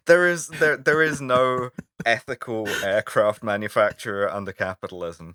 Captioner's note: laughter